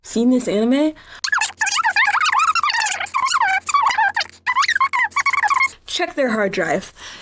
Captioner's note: ranting